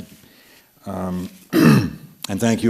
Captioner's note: clears throat